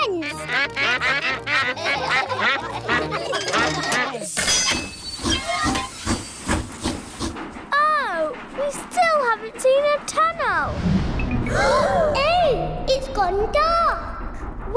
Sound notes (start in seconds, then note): 0.0 quacks; 0.1 all quack; 0.3 laughter; 4.9 train chugs; 11.5 all gasp